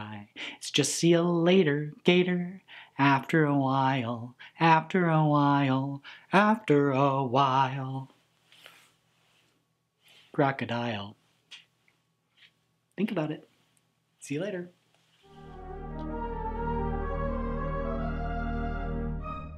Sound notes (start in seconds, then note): 11.2 smooch; 15.2 closing theme music